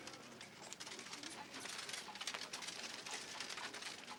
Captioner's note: wagon rattling